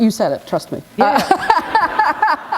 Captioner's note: laughter